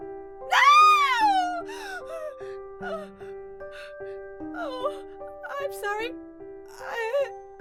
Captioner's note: Angela screams